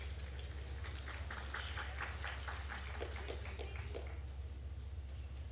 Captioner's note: attendees applauding